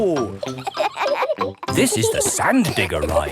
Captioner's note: kids laughing